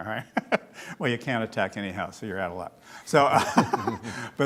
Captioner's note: laughs